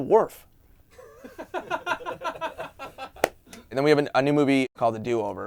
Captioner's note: laughter